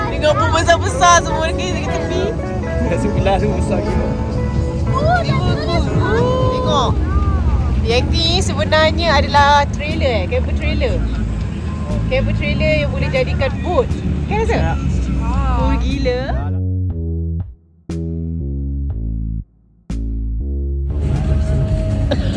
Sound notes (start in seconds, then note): 0.0 laugh; 4.9 speaking German; 17.0 background music; 21.9 laugh